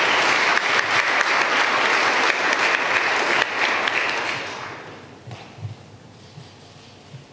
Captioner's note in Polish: oklaski